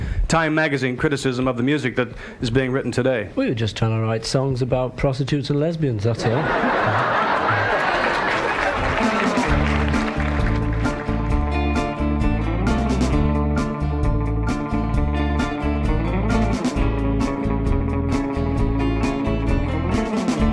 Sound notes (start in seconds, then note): 6.6 audience cheering, applauding; 10.5 pensive music